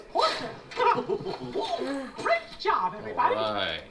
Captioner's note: laughing